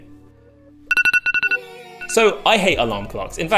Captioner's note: alarm clock beeping